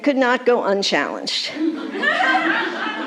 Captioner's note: laughter